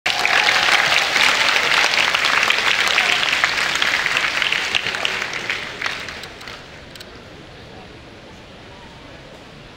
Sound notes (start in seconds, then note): 0.0 audience applause